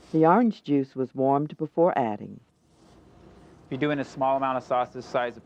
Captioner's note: voiceover